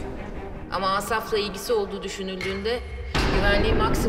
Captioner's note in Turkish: Gökçe dış ses